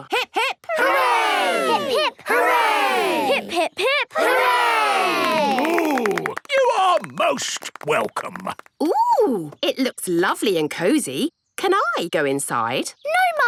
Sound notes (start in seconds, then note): 4.2 applause